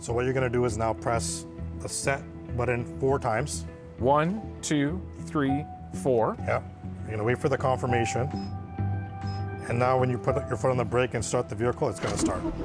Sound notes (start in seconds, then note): 8.4 car beeps